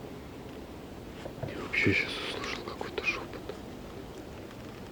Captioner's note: whispering